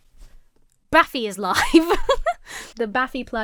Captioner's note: giggles